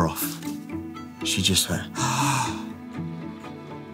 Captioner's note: gasp